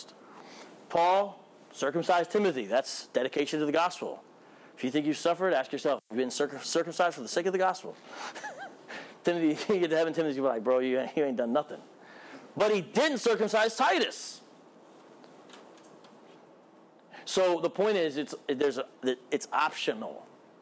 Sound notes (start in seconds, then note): 8.1 laughs